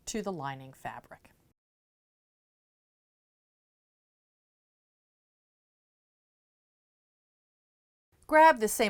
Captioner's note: no Sound Present